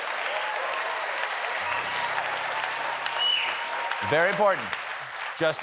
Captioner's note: applause